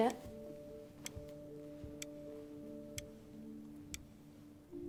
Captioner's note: clock ticking